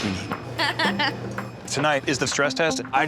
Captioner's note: laughter